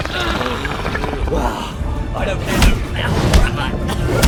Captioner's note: strained